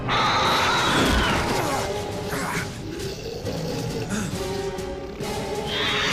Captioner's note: creature screeching; dramatic music